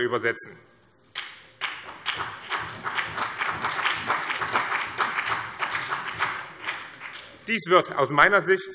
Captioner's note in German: Beifall BÜNDNIS 90/DIE GRÜNEN und vereinzelt CDU